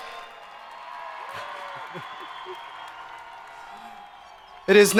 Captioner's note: crowd applauding